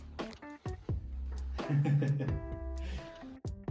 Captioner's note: laughs in the background